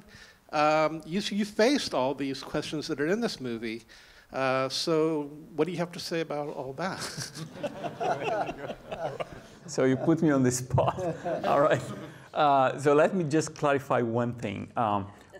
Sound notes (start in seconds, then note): 6.9 audience and panelist laughing